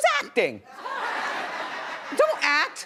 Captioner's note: audience laughs